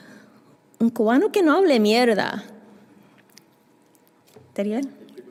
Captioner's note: spanish